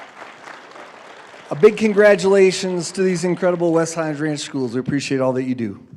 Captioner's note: applause